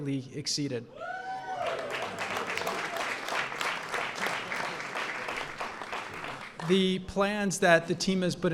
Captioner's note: applause